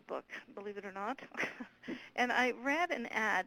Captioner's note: chuckles